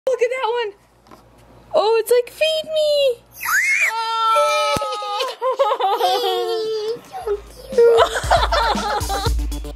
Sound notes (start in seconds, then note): 3.3 screams; 7.2 laughs